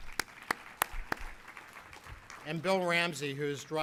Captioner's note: applauding